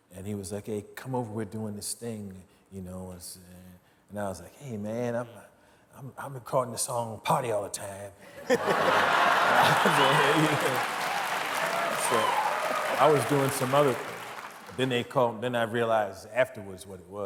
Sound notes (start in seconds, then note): 8.4 audience cheering